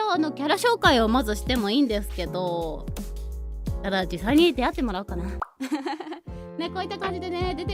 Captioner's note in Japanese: 笑い